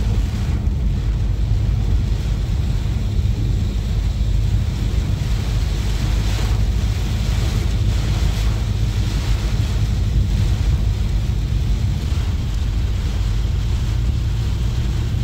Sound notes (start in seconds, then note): 0.0 heavy Wind and Rain Hitting Car Windows